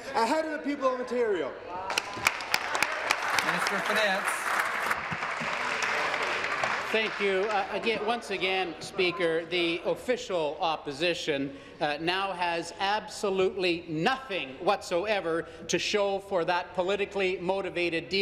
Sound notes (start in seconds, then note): 4.4 applause